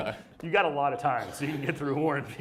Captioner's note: laughing